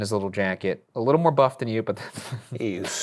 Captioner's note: laughing